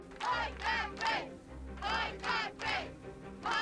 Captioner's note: people chanting "Boycott Grape"